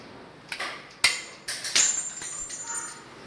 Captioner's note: metallic clinking